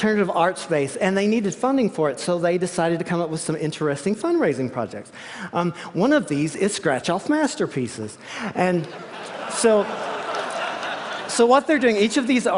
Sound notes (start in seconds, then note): 8.8 laughter